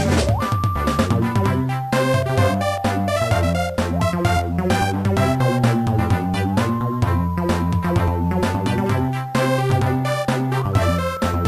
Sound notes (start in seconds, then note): none